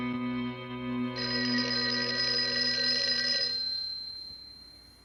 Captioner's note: phone ringing